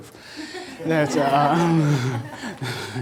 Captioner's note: audience laughter